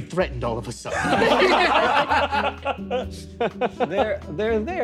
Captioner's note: players laughing